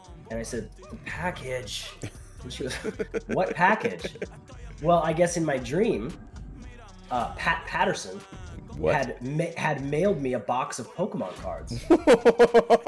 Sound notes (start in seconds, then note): 1.8 laugh; 11.8 laugh